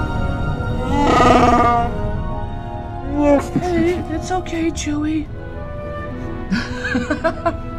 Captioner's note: growl and happy laugh